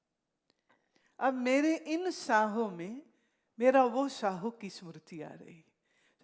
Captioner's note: breath